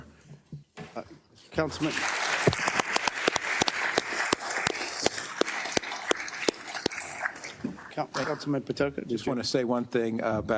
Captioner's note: applause